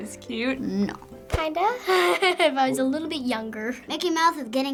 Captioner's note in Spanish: Risas